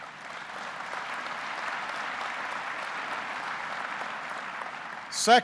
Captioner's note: applause